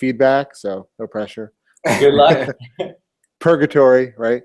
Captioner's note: laugh